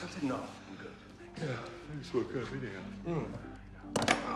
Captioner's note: yawns